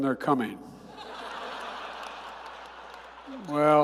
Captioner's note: laughter